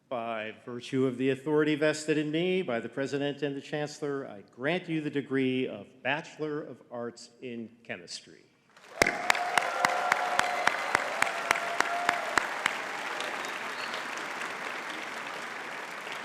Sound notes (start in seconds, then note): 8.8 audience cheering and clapping